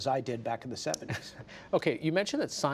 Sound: laughter

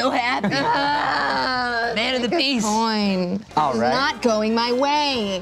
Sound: groans

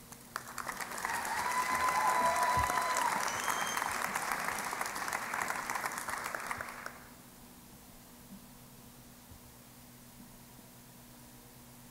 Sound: cheering and Applause

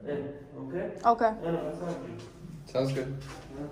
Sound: Arabic

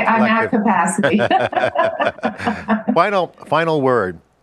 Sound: laughing; both laughing

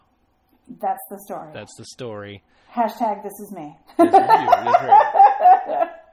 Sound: laughs

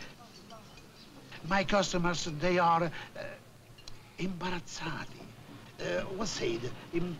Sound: italian

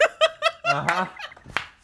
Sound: laughs

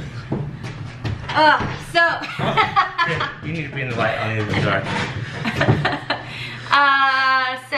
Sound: laughs

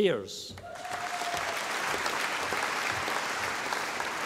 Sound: audience applauding

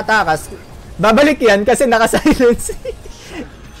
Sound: laughs

